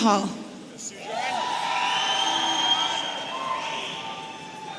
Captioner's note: audience cheering